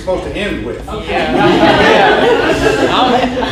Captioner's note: audience laughs